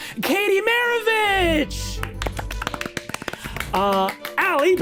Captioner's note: all clapping